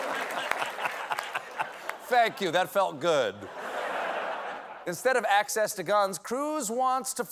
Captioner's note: audience booing